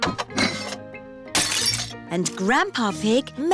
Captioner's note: shattering